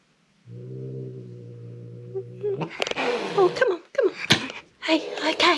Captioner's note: growling